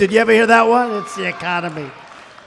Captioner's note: applause